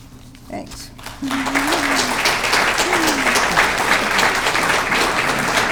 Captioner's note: audience clapping